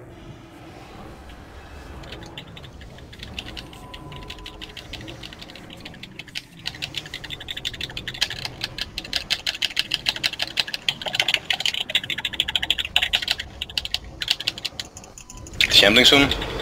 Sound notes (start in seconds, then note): 2.0 smashing buttons intensifise